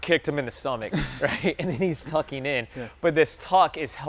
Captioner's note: chuckles